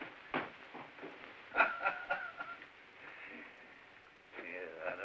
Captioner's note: chief chuckles